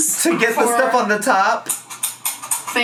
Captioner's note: device clacking